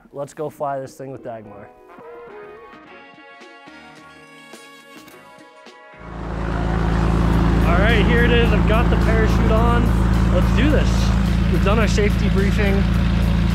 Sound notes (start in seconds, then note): 2.1 upbeat music; 6.6 plane engine roars